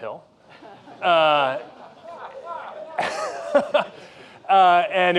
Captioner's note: laughter